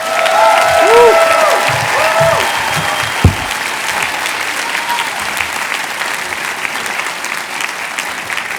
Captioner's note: cheers and applause